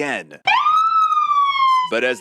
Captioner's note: sirens